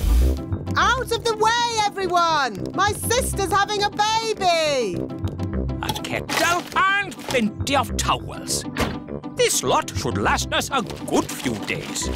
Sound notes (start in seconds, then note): none